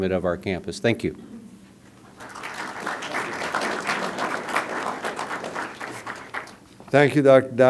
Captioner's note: applause